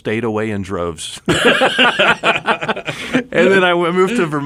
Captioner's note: laughing